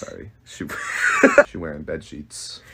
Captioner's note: laughs